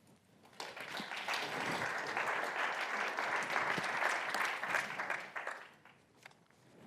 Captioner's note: applause